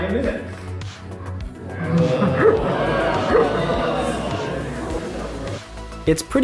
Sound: crowd

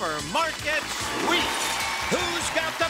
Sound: audience cheering

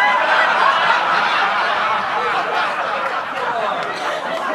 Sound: audience laughing

